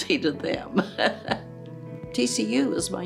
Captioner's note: chuckles